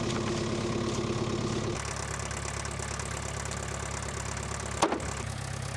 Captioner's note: machine rumbling; wood clanging